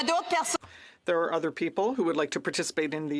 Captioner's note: speaking French